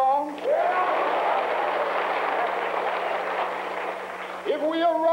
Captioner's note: shouts and applause